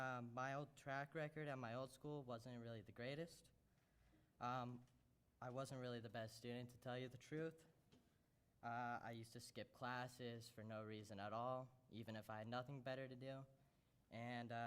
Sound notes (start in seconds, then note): none